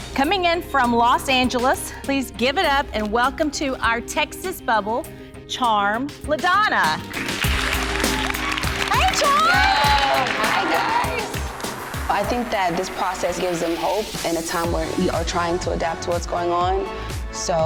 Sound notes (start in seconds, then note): 7.1 everyone applauding